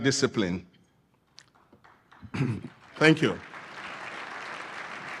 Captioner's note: applause